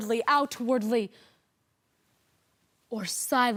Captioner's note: rustling